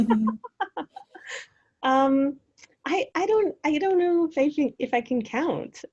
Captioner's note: laughs